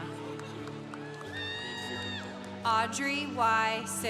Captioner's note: congregation applauding